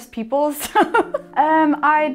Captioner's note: laughing